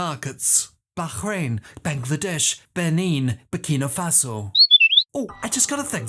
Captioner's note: whistle